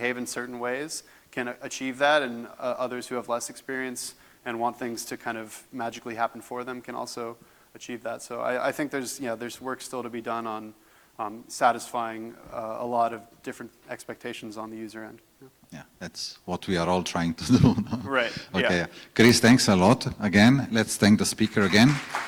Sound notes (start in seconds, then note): 17.4 laughs